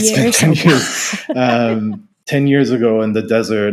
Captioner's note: laughing